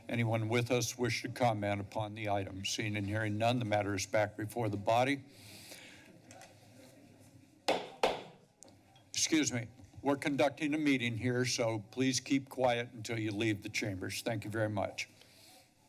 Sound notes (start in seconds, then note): 6.0 background conversations; 7.7 gavel pounding